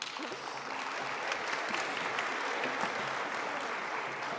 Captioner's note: audience applauding